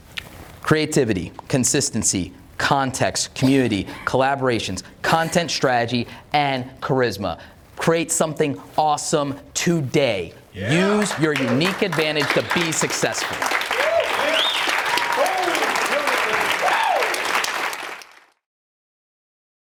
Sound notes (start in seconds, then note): 13.8 audience cheers; 14.8 audience applauds